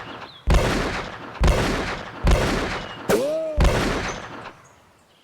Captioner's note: guns continue banging